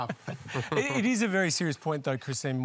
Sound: laughs

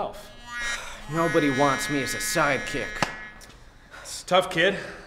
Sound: sighs

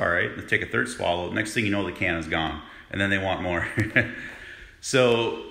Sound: laughing

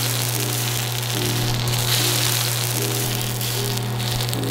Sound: sizzling

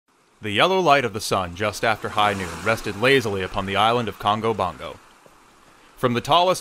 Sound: beach ambiance

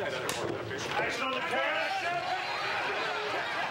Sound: screaming

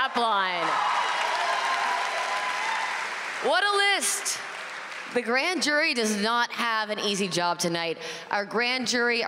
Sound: applause

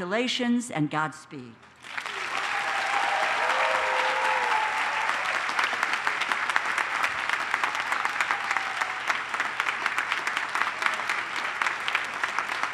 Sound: applause

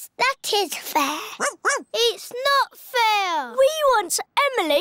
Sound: barks

